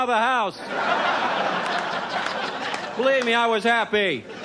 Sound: audience laughs

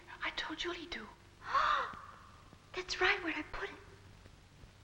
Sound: gasping

